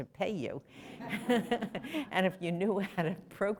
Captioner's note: laughter